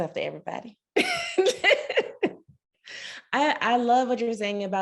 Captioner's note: laughing